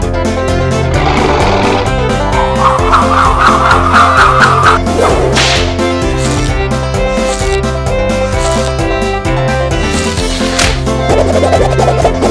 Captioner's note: dinosuar Roar